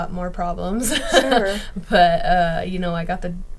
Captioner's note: laughing